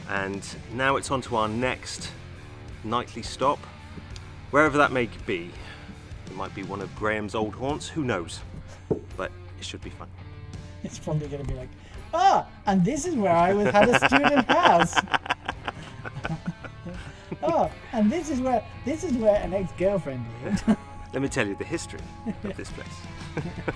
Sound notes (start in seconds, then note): 13.3 laughs; 22.1 all laughing